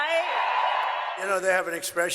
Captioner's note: cheering